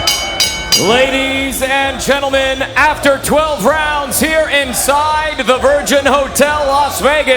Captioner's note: bell rings